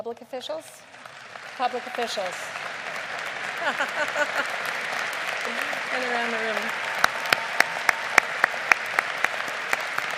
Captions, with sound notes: Public officials? (lead applause) (laughing)